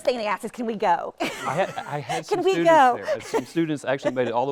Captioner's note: laughs